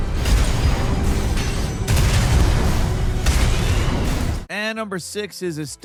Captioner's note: beam blasting; dramatic music